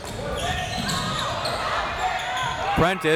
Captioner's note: crowd members shouting